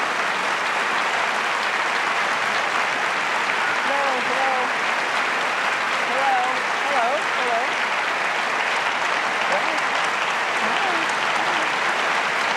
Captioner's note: applause